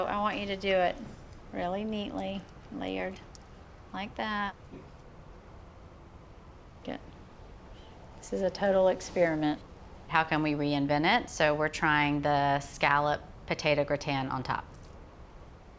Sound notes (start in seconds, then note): none